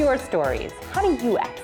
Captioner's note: whisper